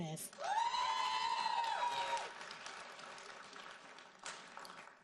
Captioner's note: audience cheering and applauding